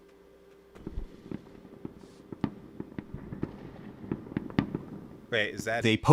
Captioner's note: distant fireworks